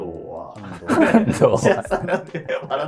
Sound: laughing

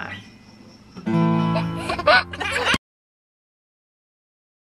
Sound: baby laughing

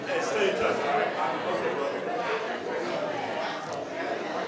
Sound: board members chattering

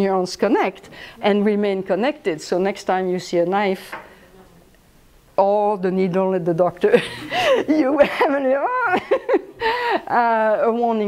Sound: laughs

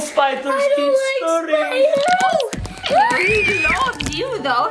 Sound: spider pattering; child screaming

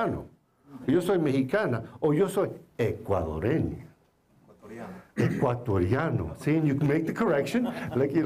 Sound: foreign Language

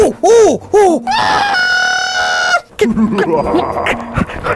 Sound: groans then pants; zb screams; bin hand laughs

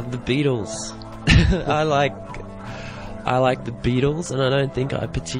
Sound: chuckles

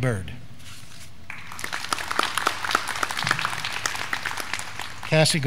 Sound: graduands clapping

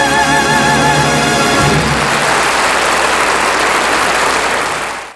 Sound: audience applauding

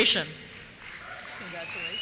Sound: cheers

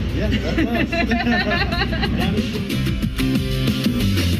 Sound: laughter

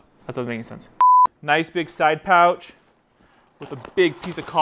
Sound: signal loss beeping

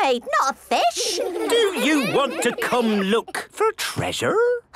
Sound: children giggling

